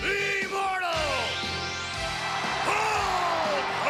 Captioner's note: audience cheering and clapping